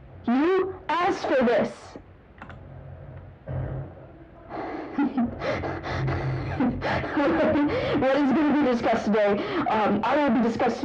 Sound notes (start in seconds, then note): 3.7 laughing quietly